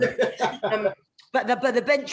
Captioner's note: laughing